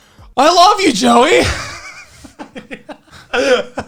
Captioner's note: laughing